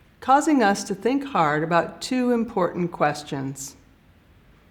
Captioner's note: none